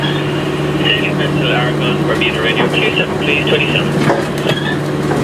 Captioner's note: radio